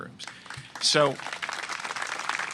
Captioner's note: applause